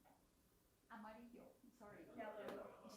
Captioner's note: speaks foreign language